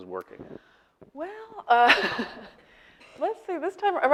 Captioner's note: laughing